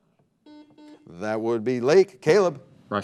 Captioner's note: buzzer beeping